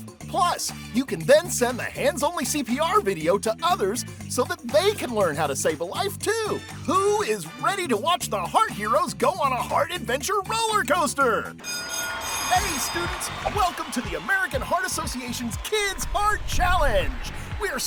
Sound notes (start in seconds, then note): 11.6 bell ringing